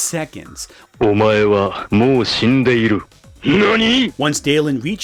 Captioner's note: both speaking in Japanese